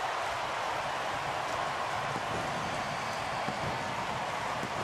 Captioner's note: cheering